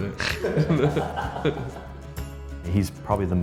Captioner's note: laughing